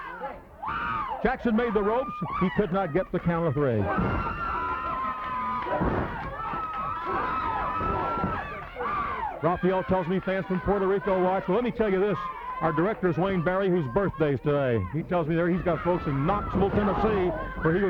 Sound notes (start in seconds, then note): 3.8 blows thudding; 4.8 crowd cheering